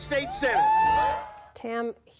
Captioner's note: cheering